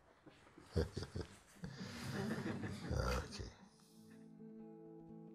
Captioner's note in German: Gelächter